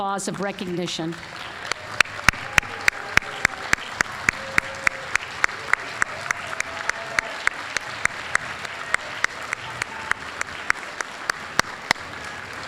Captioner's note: applause